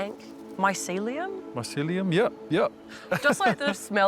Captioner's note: laughs